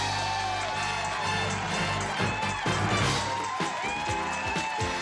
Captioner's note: applause